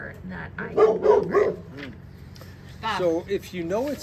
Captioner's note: dog barks